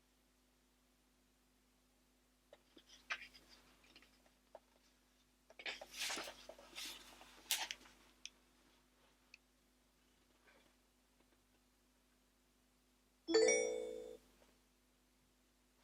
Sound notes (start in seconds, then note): 13.3 chime